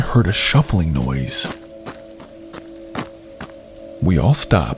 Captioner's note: footsteps